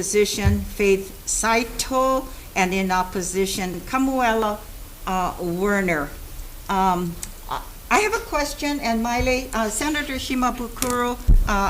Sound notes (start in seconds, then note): none